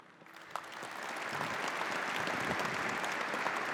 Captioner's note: applause